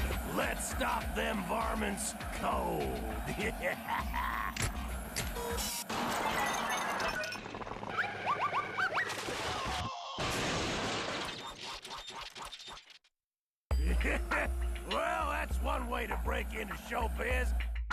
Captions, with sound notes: LET'S STOP THEM VARMINTS COLD. [laughs maliciously] [crashing] WELL, THAT'S ONE WAY TO BREAK INTO SHOWBIZ.